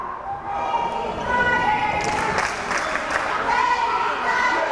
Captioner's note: crowd cheering